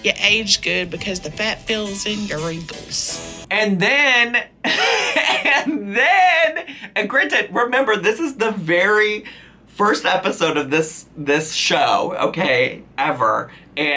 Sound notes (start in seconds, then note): 4.6 laughing